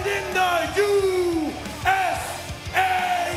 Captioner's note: fans chanting